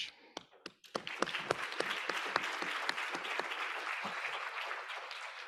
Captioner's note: audience applauding